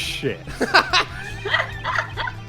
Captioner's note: laughter